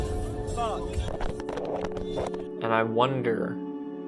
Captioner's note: tumbling sounds